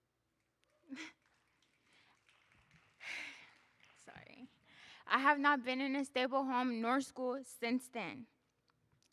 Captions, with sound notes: [audience applauding] Sorry. I have not been in a stable home nor school since then.